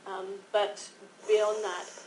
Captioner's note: hissing